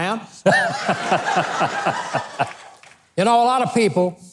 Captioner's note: crowd laughing